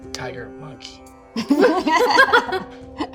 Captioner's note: laughing